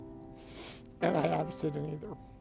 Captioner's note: sniffs